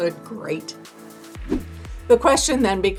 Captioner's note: air whooshing